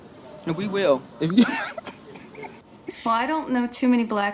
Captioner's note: laughing